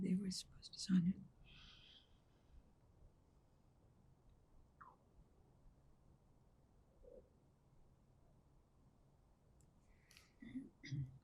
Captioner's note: pauses 11 seconds